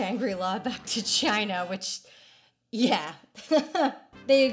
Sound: bitter chuckle

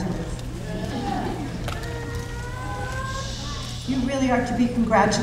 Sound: audience laughing

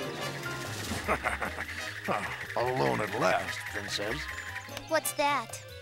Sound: chuckles

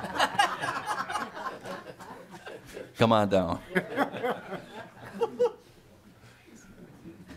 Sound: laughing

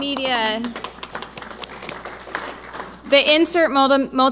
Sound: audience applauding

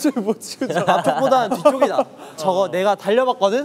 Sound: laughing

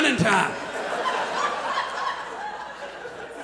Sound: audience laughs

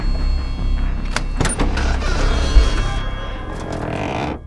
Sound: latch clicks then lid creaks

